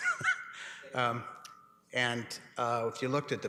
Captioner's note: laughs